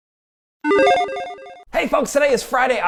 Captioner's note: logo beeps